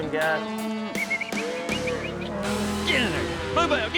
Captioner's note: sighs; whistling